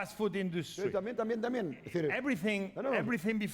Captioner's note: speaking spanish